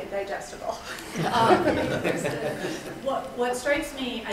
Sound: attendees laughing

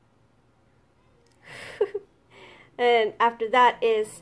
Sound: laughs

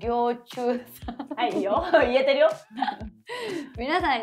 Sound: laughs

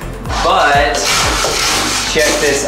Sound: ice scraping

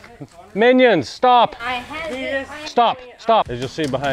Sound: Minions chatter softly

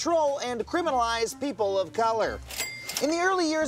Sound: cash register cha-ching

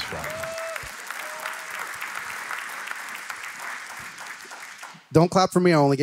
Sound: applause

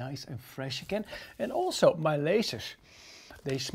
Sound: sniffing

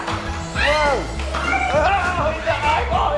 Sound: exclamations

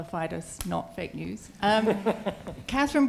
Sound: laughter

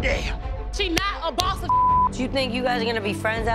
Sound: beep

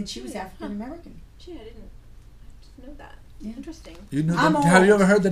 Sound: voiceover

